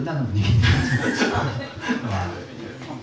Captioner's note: laughter